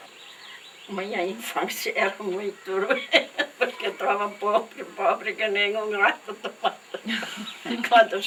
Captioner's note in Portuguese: risos